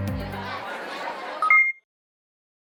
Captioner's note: participants chattering